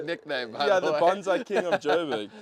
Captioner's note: laughs